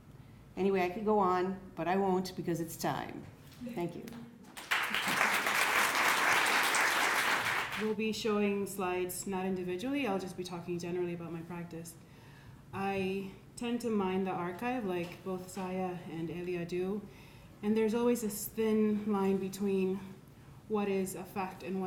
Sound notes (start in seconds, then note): 4.5 crowd applauding